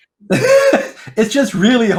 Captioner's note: laughing